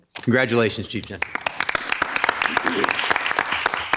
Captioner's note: applause